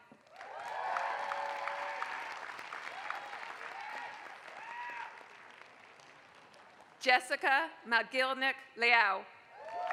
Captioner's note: applause; applause